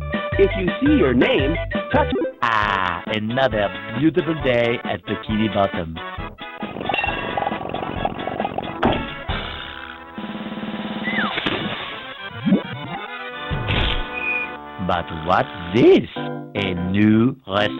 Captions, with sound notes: If you see your name, touch Ah. Another beautiful day at Bikini Bottom. [bumping] [splashing] But what's this? A new restaurant?